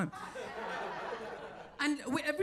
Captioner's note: audience laughs